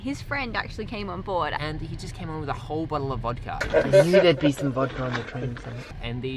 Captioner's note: murmers and chatter